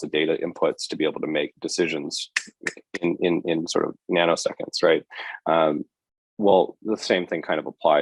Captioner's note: snap